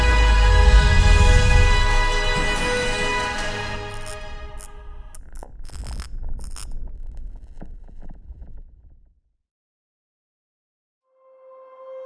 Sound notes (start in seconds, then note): 3.8 electric buzzing